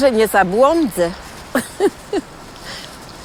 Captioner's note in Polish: laugh